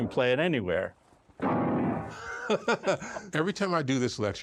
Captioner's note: both laughing